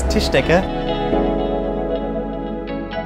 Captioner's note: spherical sounds